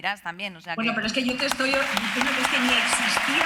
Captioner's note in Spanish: Aplausos